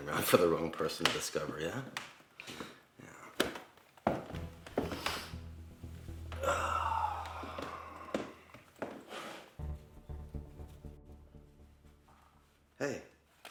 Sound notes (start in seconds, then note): 6.2 Kester sighing